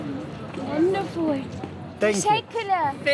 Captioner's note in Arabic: بالتركية